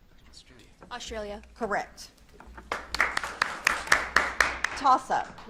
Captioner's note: audience claps